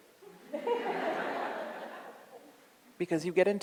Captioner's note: audience laughs